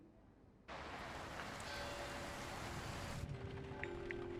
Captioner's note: sound of rainfall